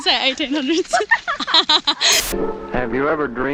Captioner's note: both laughing